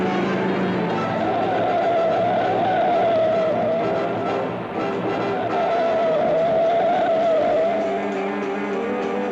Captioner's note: car accelerates; suspenseful jazz music; tires squeal; suspenseful jazz music